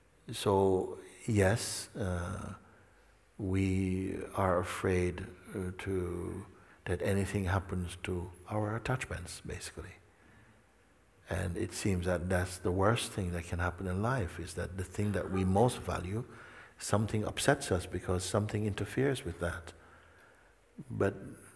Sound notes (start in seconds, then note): none